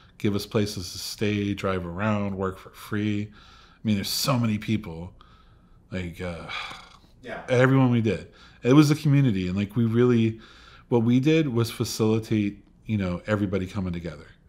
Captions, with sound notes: give us places to stay, drive around, work for free. I mean, there's so many people, like (gasps) everyone we did, it was a community. And what we did was facilitate everybody coming together,